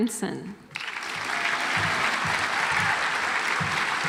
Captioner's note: audience applauds